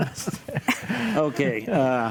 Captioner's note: panelists chuckle